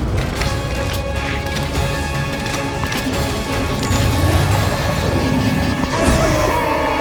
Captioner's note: intense music; device clicking